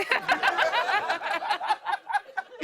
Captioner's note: laughter